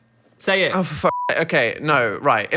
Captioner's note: beep